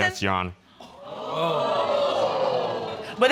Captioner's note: audience exclaiming